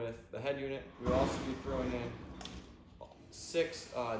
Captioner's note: door crashing